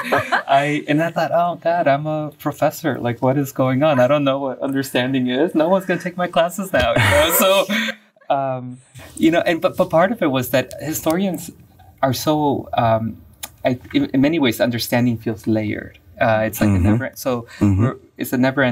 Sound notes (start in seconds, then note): 0.0 laughing